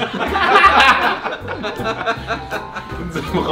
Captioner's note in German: die Jungs lachen